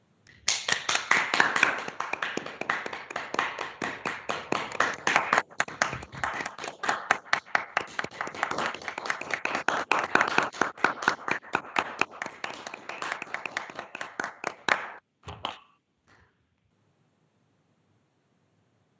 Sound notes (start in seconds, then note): 0.6 all clapping